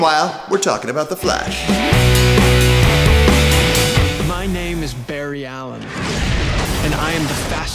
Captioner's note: explosion sounds